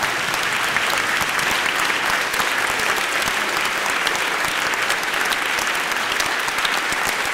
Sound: applause

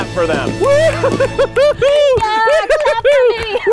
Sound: all cheer

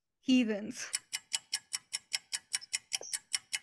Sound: ticking nosies

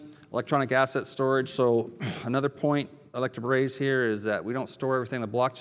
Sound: cough

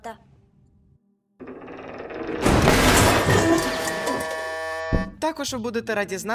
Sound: sounds of car falling apart

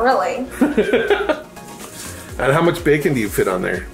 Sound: laughing

